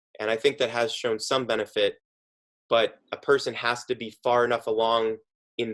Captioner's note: none